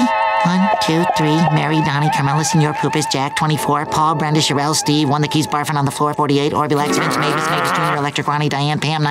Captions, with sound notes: one, two, three, Mary, Donna, Carmela, Señor Cooper, Jack, 24, Paul, Brenda, Cheryl, Steve, one that keeps barfing on the floor, 48-- [growling] Ronnie, Diane, Pam, 97,